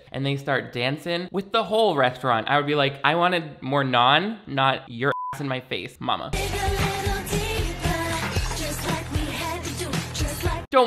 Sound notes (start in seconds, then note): 5.1 beep; 6.3 upbeat pop music